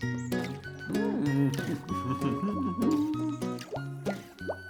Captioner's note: humming; water Bubbling